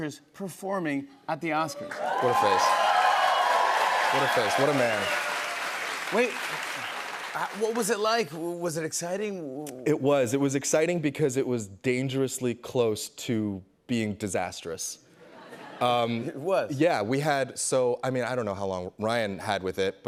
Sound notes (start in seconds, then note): 1.7 cheers and applause